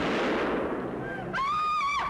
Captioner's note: gunshot; screaming